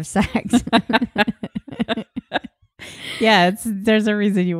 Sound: laughing

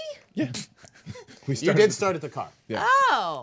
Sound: group chuckling

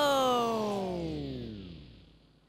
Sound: powering Down

